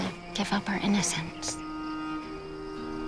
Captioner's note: birds chirping; calm music playing